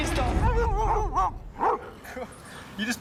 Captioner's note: laughing; barking